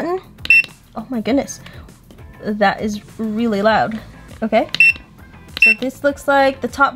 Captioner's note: beeping noise with buttons being pressed